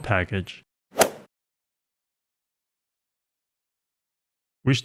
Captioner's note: golf ball hit sound effect